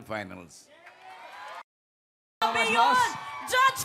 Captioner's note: audience cheering